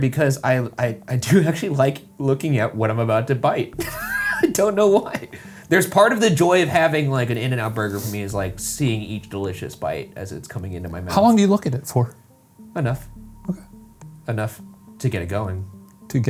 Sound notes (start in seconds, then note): 3.8 laughs